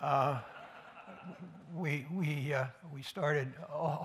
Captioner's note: laughter